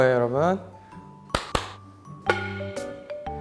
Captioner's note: clap clap